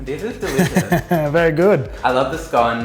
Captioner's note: laughs